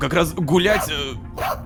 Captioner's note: robodog barking